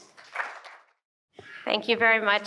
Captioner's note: applause